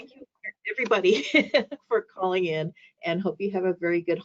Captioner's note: laughing